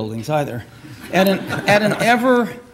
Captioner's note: audience laughs